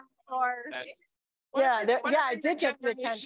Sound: chatter

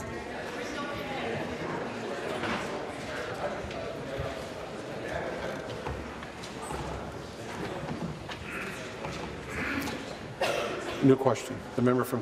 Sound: conversation din

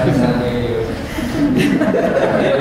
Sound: laughter

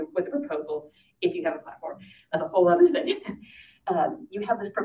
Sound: laughs

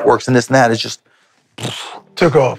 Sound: vocalizes

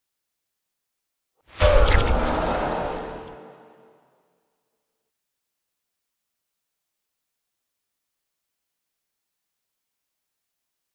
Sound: sound of magic spell

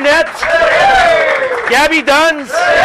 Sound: cheers

